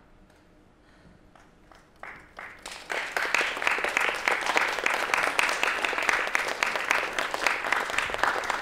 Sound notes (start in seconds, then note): 1.9 audience applause